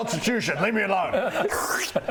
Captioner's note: slurp